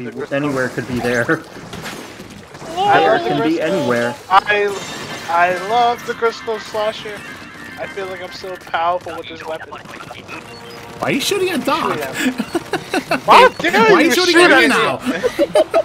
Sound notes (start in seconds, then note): 12.0 laughter